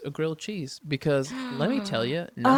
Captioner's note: gasps